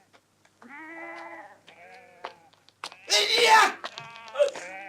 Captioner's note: baa